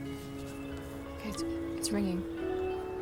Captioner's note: ringing